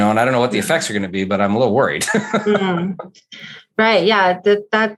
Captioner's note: laughs